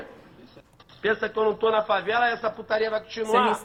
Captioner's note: speaking portuguese